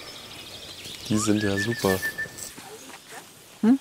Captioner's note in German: Pfiffe